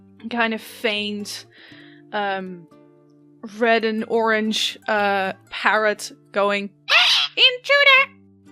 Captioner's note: parrot screech